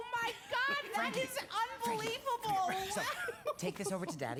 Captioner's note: laughs